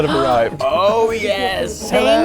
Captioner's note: gasps